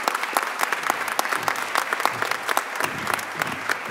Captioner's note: applause